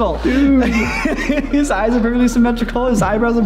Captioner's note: laughs